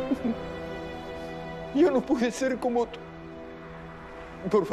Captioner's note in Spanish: Sollozos